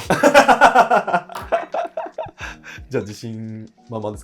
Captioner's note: laughing